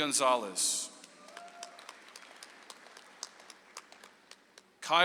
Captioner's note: audience applauds